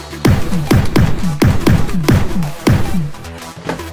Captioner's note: upbeat electronic music continues; gun banging